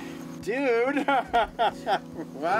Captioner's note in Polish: śmiech